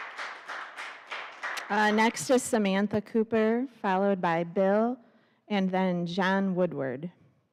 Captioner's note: applause